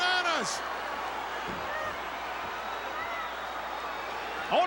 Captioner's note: crowd cheering